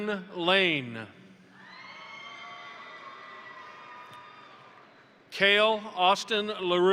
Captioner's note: crowd applauding; crowd cheering